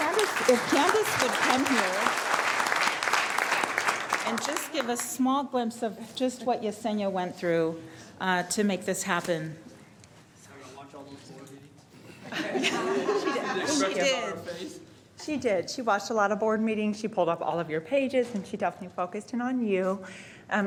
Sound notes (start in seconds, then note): 3.1 applause